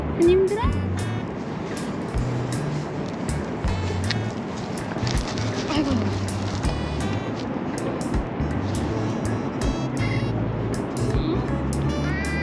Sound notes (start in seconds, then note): 4.7 sound of sitting next to her